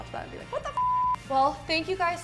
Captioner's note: beep